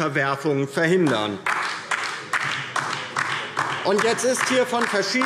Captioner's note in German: Beifall DIE LINKE